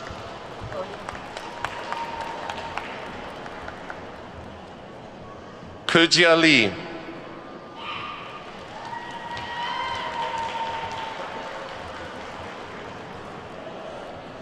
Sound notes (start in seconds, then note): 0.0 attendees clapping; 7.8 attendees whooping and clapping